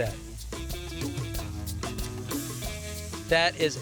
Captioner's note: sizzling